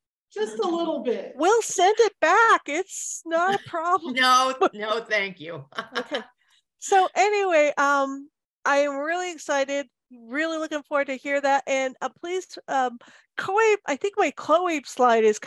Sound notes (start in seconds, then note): 5.6 laughs